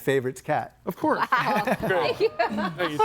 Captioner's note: laughs; group chattering